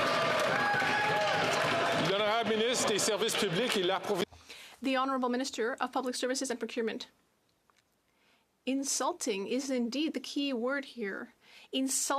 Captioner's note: some Applause